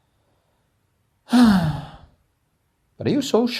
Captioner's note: sigh